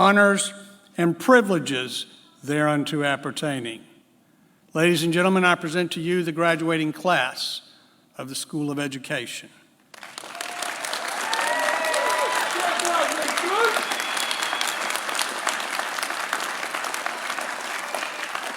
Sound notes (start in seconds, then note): 10.3 applause